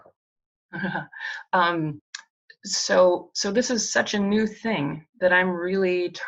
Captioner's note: chuckles